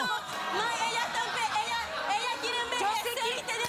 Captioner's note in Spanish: gritos y exclamaciones